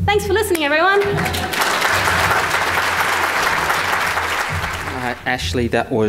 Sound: audience applause

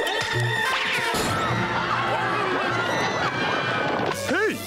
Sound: screaming

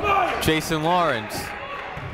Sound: shouting

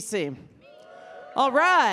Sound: audience cheering

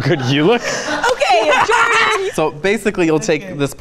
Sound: laughs loudly

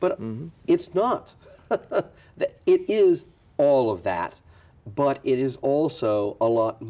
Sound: chuckles

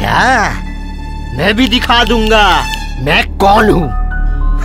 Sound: snaps finger

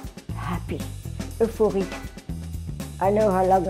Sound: speaks foreign language

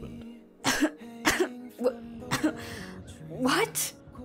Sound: Calissa chokes

